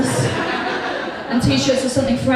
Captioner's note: audience Laughs